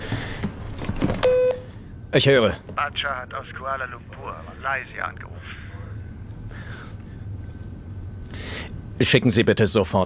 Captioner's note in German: am Telefon